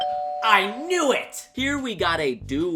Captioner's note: instant doorbell sound